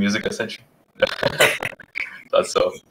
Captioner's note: people chuckle